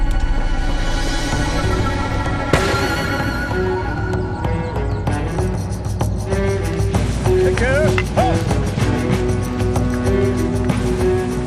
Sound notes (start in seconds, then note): 2.0 tense suspenseful music; 2.5 gunshot bangs